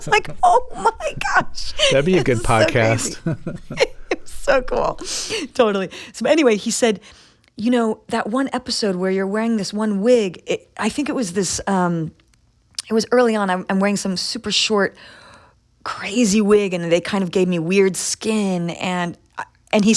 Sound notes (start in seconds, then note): 5.1 laughter